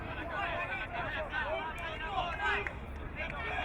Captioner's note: crowd muttering